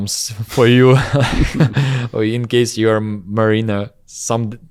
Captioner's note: laughs